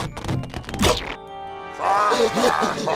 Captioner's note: deeper laughing